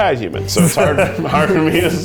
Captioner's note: chuckling; laugh